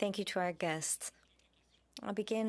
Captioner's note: speaking French